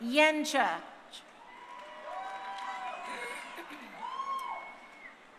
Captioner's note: crowd cheering